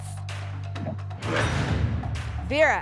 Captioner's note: lock sound